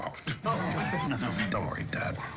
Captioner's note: laughter